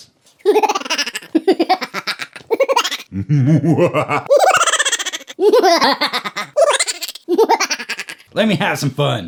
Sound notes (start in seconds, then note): 0.4 weird laughter; 2.9 weirder evil laughter; 4.4 weird laughter again